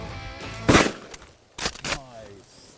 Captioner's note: gunshot